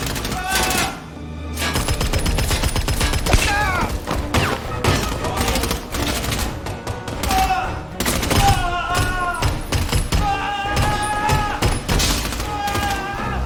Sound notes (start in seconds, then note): 0.2 screams; 5.8 gunfire continues; 8.3 screaming